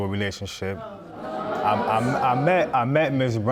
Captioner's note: stutters